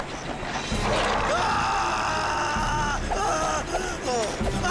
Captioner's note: roars